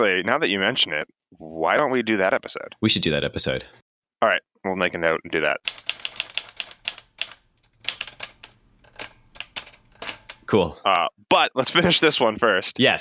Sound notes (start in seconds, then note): 5.6 typewriter clicking